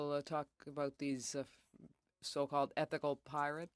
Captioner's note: speaking French